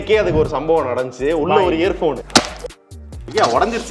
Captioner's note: cracking sound